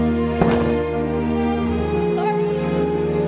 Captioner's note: microphone booms